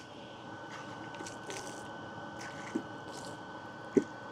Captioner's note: water splashing